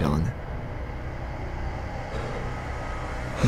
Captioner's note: nervous breathing